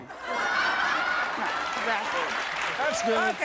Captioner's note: audience laughs